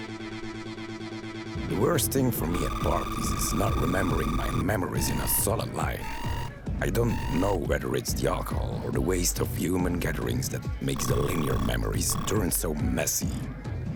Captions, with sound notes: The worst thing for me at parties is not remembering my memories in a solid life. (warning beeps) I don't know whether it's the alcohol or the waste of human gatherings that makes the linear memories turn so messy.